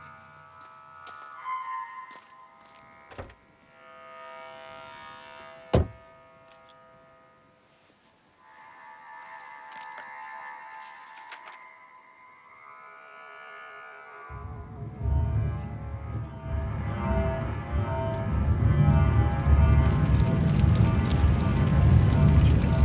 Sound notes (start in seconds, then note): 0.1 grass crunching; 0.1 insects chirping; 5.7 door slamming; 14.8 dramatic music; 16.1 people chattering; 19.8 flames crackling